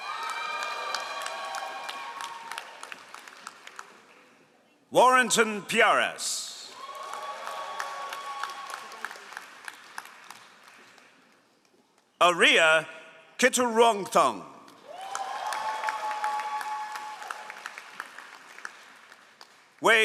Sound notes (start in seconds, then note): 0.0 all applauding; 6.7 all applauding; 14.6 all applauding